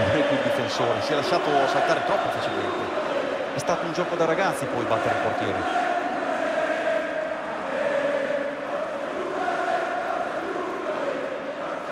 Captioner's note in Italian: Applauso